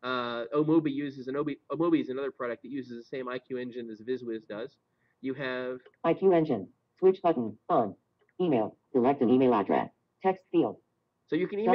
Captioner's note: Siri talking